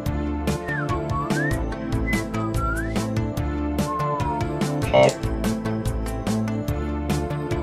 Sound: R2-C4 whistles

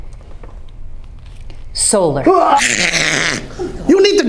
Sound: Vlad hissing

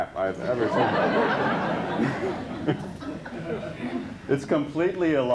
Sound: laughter

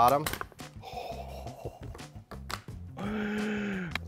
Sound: exhales

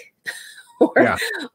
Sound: laughs

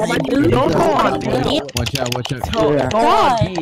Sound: A bunch of clickity clack clacks

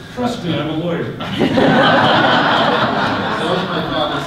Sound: audience laughter

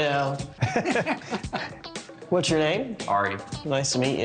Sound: laughing; laughs

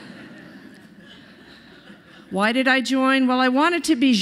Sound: laughter

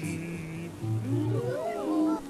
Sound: scoffs

